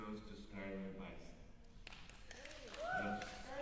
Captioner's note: cheering